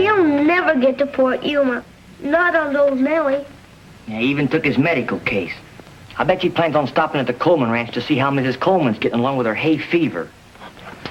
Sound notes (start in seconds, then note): none